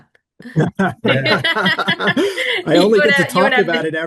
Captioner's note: laughing